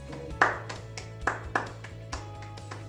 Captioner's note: clapping